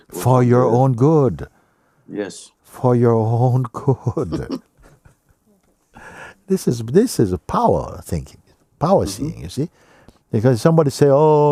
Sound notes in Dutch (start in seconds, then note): 4.1 vraagsteller lacht